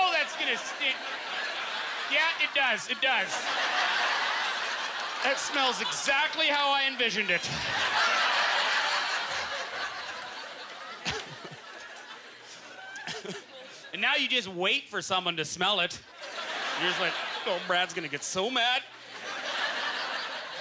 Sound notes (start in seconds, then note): 7.0 audience laughter; 12.3 laughs